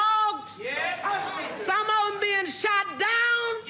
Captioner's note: audience exclaims; audience exclaims